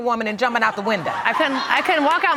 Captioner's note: audience laughs